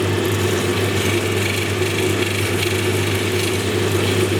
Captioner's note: machine whirring